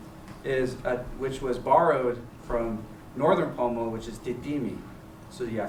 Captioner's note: non-english